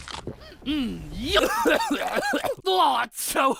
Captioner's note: coughing, gagging